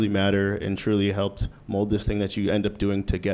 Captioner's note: none